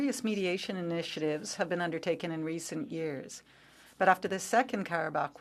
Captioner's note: speaking French